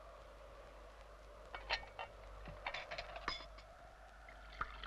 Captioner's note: dishes clatter softly